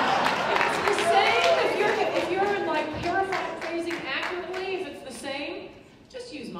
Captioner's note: laughter